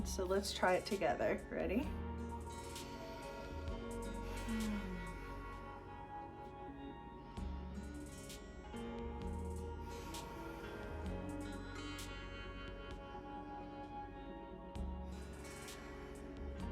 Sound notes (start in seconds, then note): 4.4 deep breath with soft sigh; 9.1 soft music